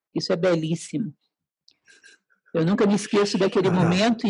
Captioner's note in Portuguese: haha